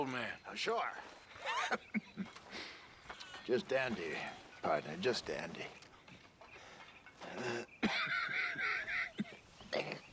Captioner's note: coughs